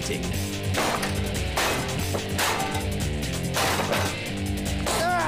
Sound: smashing sounds

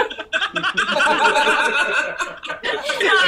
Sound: laughter

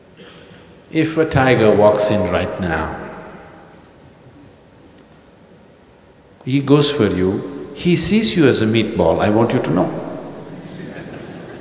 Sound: laughter

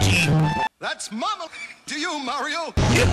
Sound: wheeze

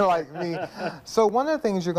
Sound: laughing

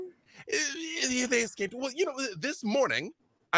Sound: stutters

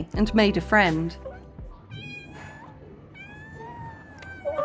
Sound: kitten mewing repeatedly

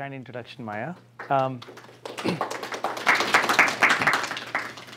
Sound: applause

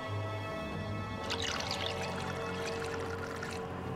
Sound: liquid pouring

